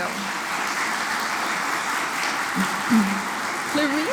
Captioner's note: applause